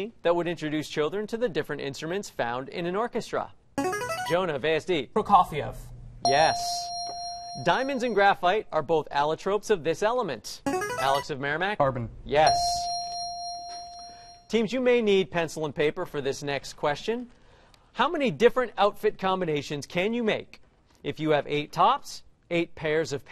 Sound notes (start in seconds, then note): 3.8 buzzer plays; 6.2 ding; 10.7 buzzer plays; 12.4 ding